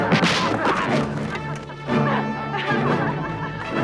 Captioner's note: armor clatters; both laughing